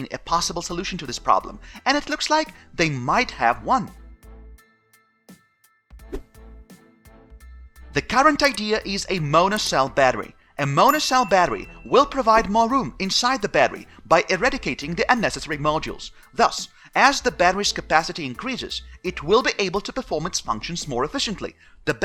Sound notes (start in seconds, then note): 4.0 upbeat music; 6.0 whooshing